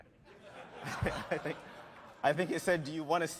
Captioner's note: laughter